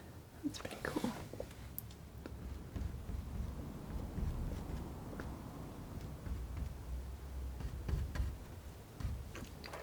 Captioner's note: scratching; scratching